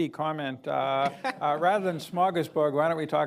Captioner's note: laughter